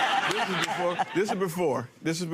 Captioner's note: audience laughs